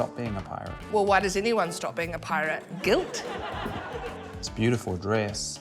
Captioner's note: laughter